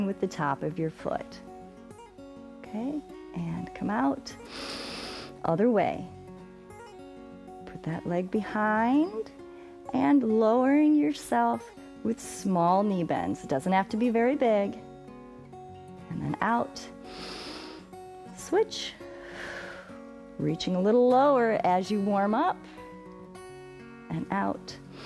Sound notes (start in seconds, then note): 4.4 inhales; 17.0 exhales; 17.0 inhales